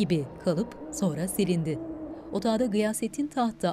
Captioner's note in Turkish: Baykuş sesi